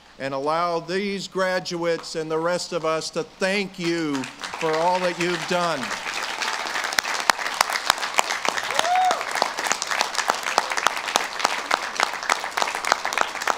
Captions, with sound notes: and allow these graduates and the rest of us to thank you for all that you've done. (audience claps and cheers)